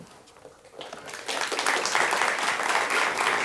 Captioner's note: applause